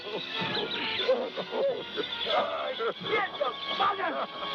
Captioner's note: laughter